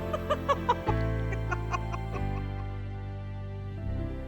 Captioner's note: laughing